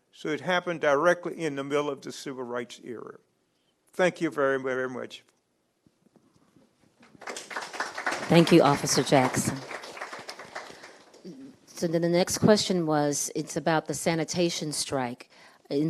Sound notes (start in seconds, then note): 7.0 audience clapping